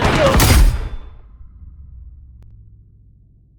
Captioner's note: gun firing; dramatic music